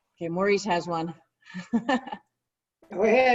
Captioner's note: laughter